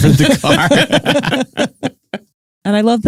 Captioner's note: laughs